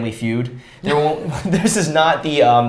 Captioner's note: both chuckles